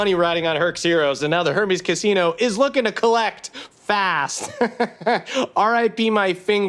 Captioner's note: laughs